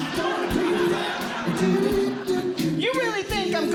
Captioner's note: audience Laughing